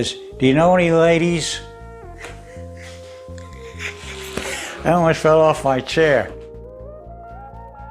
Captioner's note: laughs